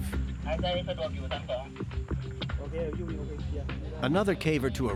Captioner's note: people talking on radio